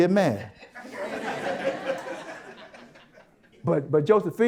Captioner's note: audience Laughter